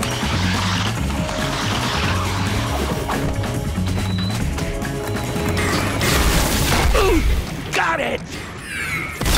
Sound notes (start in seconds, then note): 6.4 grunting